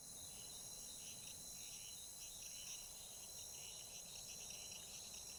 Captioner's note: crickets chirping